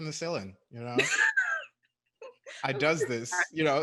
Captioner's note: chuckles